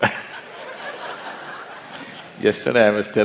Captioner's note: laughter